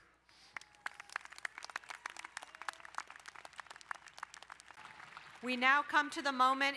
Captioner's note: crowd cheering and applauding